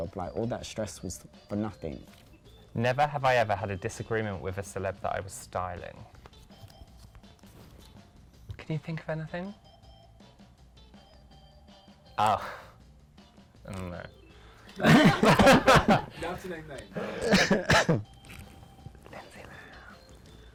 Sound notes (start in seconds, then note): 6.4 upbeat music; 10.8 upbeat music; 14.8 laughs